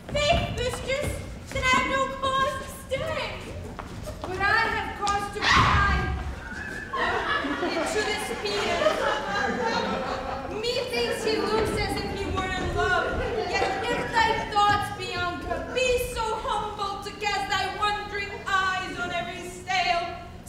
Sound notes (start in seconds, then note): 5.9 Bianca cries out; 6.7 audience laughs